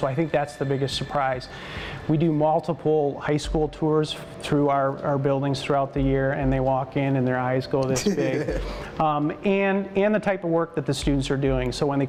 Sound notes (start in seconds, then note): 8.0 laughter